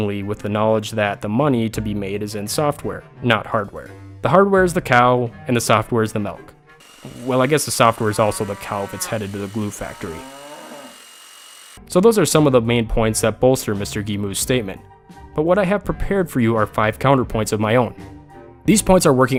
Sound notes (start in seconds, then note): 9.9 mooing; 10.6 saws cutting